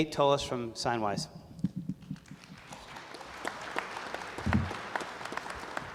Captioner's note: applause